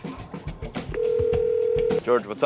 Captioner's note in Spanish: teléfono sonando